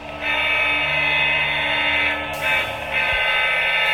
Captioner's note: diesel horn blaring